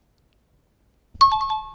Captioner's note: time chime